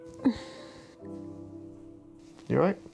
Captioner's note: dramatic orchestral music; Ruth sighing